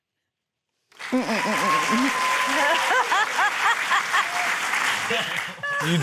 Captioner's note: cheering, applause; laughs